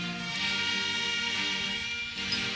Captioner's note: none